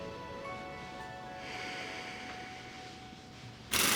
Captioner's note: sighs